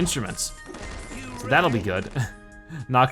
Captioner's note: chuckles